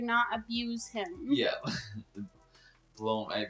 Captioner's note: laughs